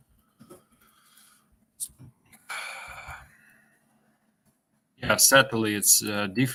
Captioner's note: pause